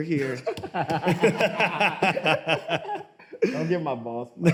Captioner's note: both laugh